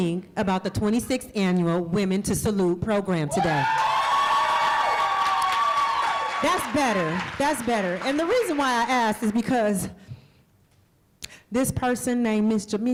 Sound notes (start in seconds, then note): 3.3 cheering and applause